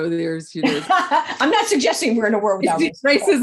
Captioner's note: laughs